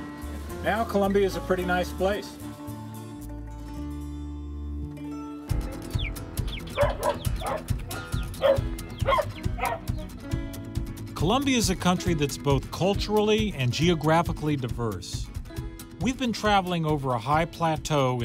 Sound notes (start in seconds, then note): 6.3 hen cheeping; 6.6 dog barking